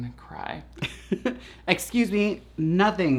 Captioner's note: laughs